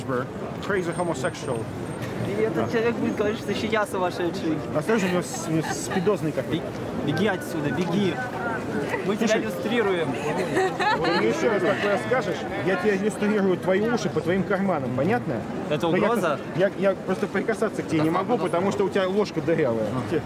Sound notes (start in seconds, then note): 2.1 speaking in foreign language; 5.0 woman laughing; 7.0 speaking in foreign language; 10.1 woman laughing; 10.5 speaking in foreign language